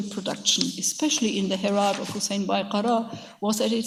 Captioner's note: speaks in a foreign language